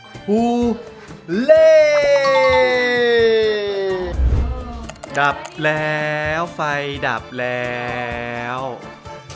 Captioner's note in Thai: ปรบมือ